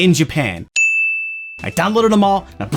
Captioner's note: ding!